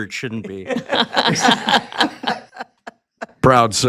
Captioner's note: group laughing